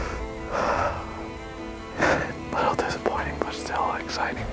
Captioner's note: sighs